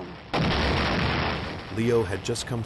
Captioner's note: guns firing